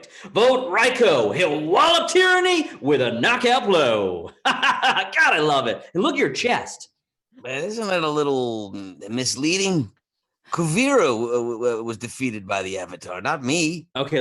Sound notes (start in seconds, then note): 4.2 laughs